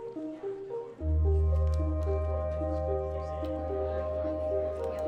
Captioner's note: students chattering